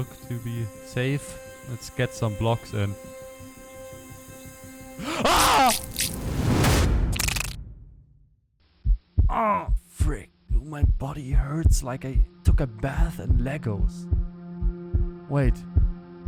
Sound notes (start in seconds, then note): 5.0 sound of a parasite, inhale of air; 5.0 scream + fall to death